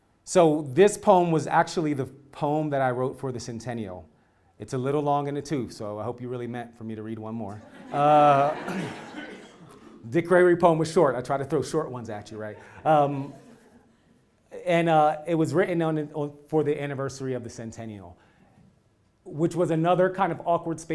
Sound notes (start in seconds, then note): 7.6 laugh